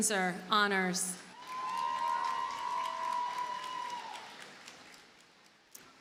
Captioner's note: audience cheers and applauds